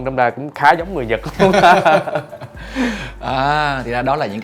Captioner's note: laugh